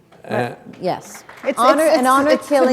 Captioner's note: applause